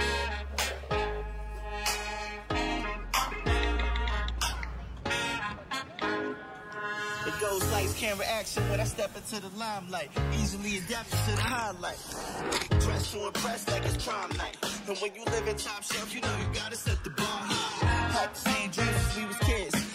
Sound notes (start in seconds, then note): 3.1 texting noises; 13.7 texting noises